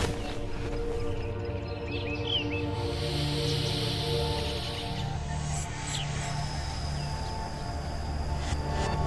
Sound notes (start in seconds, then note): 1.2 reverse sounds